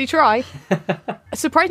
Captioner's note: laughs